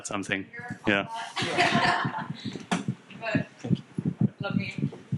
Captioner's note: audience laughing